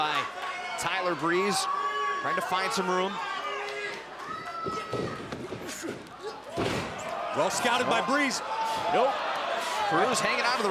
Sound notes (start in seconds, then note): 7.1 crowd chatter